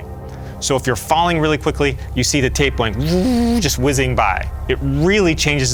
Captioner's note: whizzing noises